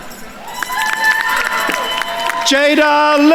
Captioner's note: attendees cheering and applauding